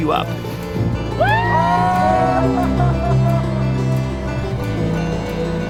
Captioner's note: adventurers cheering